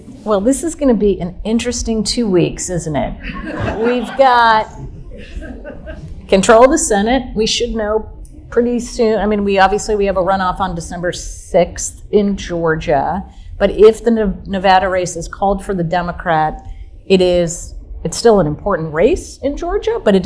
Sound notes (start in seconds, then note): 3.3 audience laughing softly